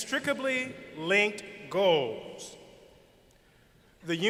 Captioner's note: none